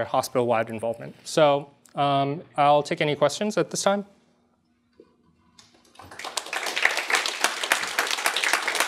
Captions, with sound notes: hospital-wide involvement. So I'll take any questions at this time. [APPLAUSE]